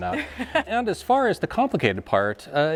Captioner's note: laughs